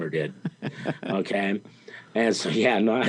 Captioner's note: interviewer laughing